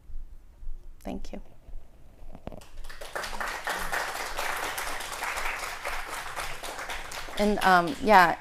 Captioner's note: applause